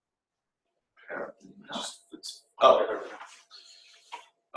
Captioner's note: silence